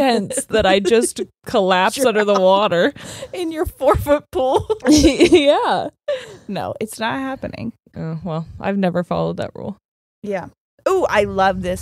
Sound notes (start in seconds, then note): 0.0 laughing; 4.3 laughs